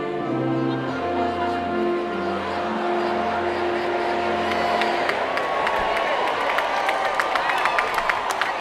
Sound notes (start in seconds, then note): 4.4 cheering